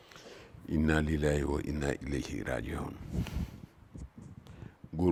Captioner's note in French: en arabe